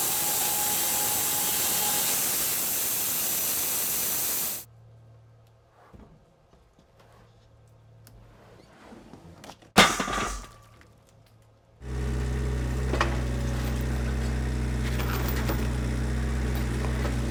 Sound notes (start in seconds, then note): 9.8 wood crashing down on trailer; 11.8 engine running quietly